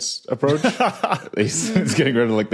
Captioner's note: laughs